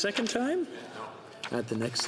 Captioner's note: speaking French